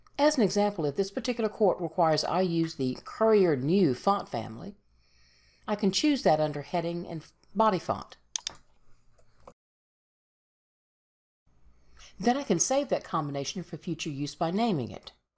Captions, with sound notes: As an example, if this particular court requires I use the Courier New font family, I can choose that under Heading and Body Font. (mouse clicks) Then I can save that combination for future use by naming it.